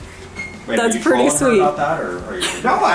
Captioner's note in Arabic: يضحك